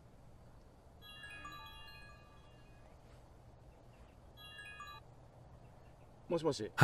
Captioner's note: phone rings